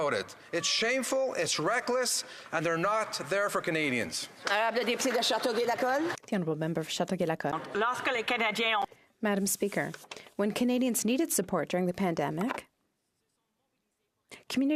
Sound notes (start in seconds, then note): 8.0 speaking in French